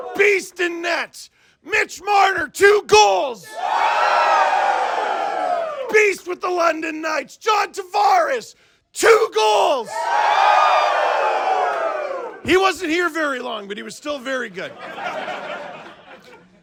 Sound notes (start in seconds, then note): 3.4 crowd cheers; 9.8 crowd cheers; 14.6 crowd laughs